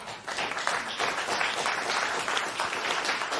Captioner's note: applause